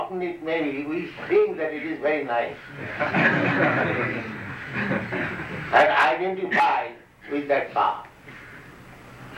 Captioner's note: laughter